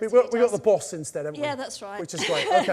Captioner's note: laughs